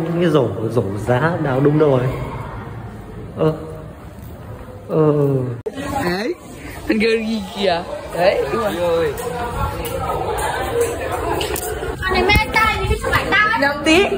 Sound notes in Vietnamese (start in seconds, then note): none